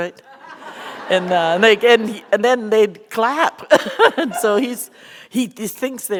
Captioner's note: laughter